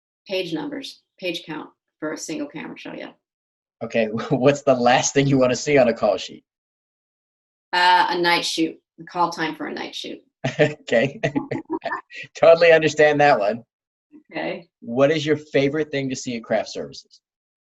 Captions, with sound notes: - Page numbers, page count. For a single-camera show, yeah. - Okay, well what's the last thing you wanna see on a call sheet? - Ah, a night shoot. A call time for a night shoot. - (laughs) Okay. (laughing) Totally understand that one. What is your favorite thing to see in craft services?